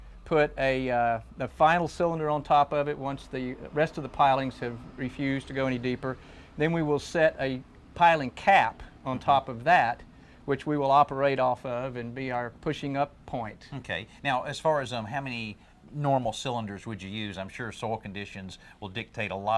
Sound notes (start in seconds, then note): none